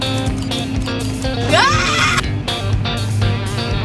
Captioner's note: clicks